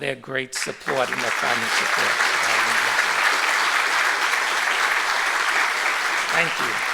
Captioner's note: applause